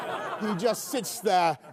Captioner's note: laughter